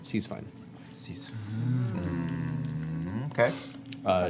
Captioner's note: groans